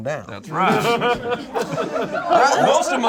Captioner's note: group laughs